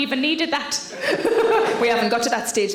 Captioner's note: Sarah laughs